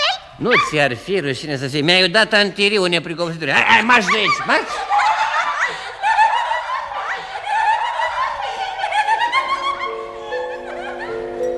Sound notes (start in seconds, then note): 3.5 the little angels laugh